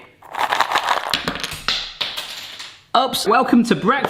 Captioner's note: cereal rattles; cereal clanks on floor